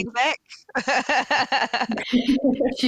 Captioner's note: chuckles